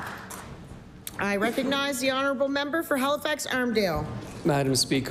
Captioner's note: applause